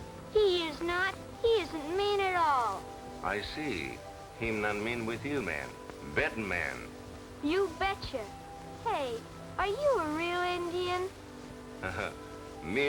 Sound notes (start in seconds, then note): none